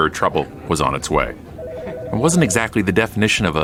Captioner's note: phone ringing